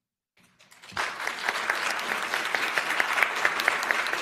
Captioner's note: applause